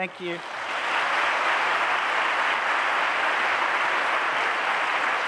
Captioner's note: applause